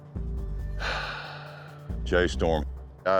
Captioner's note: sighs